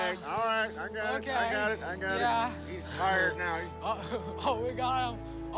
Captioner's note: laughs